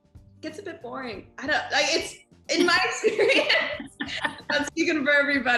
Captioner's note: laughs